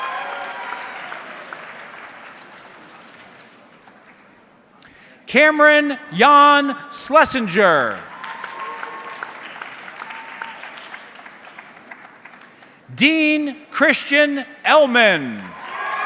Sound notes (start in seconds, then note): 0.0 audience clapping; 8.0 audience clapping